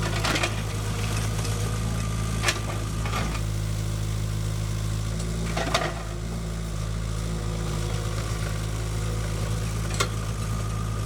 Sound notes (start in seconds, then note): 0.2 metal clanks; 5.8 metal clanks